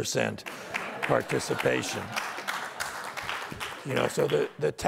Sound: audience laughter and applause

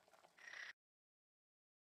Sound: snoring

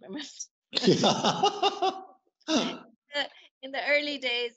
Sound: laughter

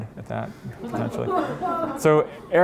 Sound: laughter

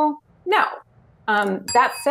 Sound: bell dings

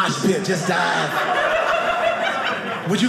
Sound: audience laughing

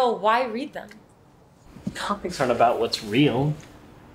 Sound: none

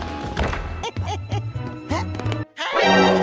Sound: laughing

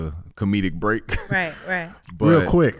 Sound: Iman chuckles

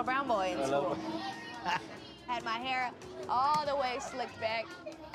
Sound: laughs

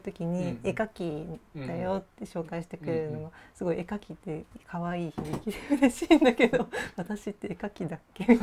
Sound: laugh

